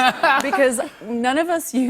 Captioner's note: laughter